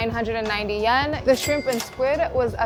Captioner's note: chime ringing